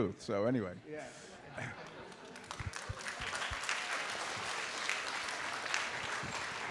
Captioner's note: applause